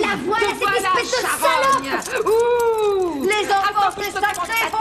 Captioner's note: inmates shouting